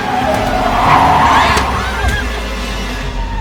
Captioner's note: Alejandra screams